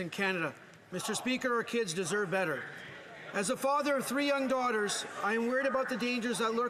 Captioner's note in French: voix de l'interprète